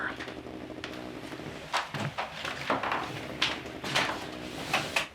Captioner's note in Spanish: teléfono celular zumbando